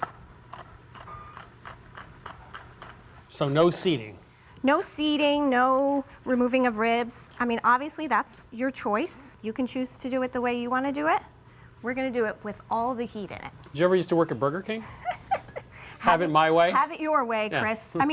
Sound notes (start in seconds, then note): 14.8 laughs